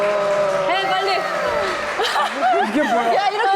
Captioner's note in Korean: 박수갈채